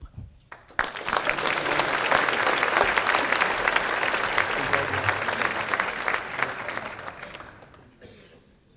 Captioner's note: applause